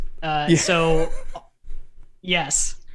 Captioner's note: laughter